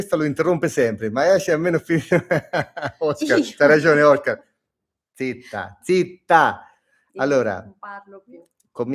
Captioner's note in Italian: risate